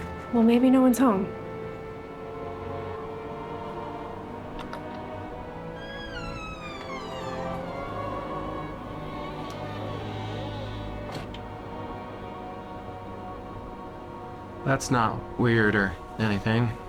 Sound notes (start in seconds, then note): 5.6 door screeching